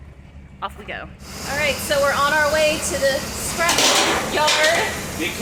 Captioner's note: things falling